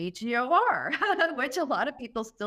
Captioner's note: laughter